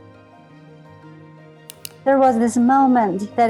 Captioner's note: mouse clicking